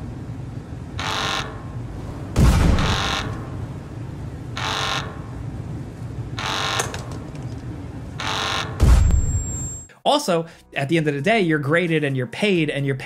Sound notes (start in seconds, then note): 2.1 explosion